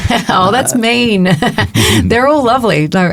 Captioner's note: both chuckling